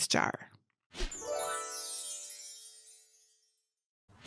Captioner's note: gentle chiming